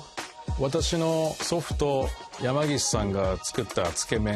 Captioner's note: speaking in Japanese